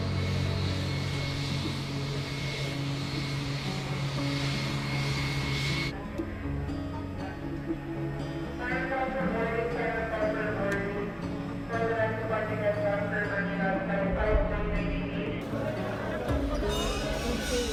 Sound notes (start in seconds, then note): 9.2 announcer speaking in foreign language